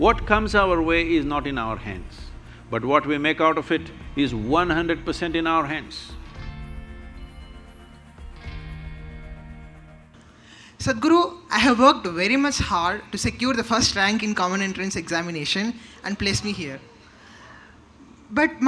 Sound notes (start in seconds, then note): none